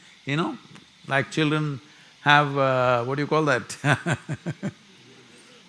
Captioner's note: laughs